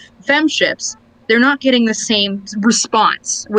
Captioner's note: laughs